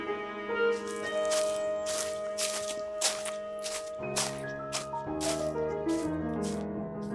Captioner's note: Leaves rustle as Ludlow walks